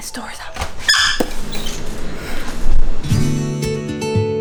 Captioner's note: crazy, garbled background & traffic noise flood in